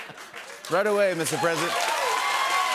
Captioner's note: normal voice; cheers and applause